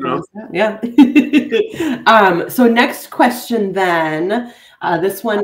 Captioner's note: giggling